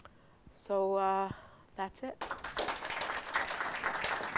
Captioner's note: applause